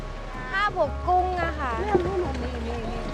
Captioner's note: speaking Thai; lady speaking Thai